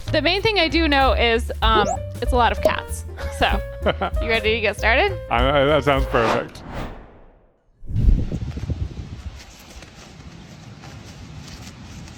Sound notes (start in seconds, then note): 8.8 grass rustling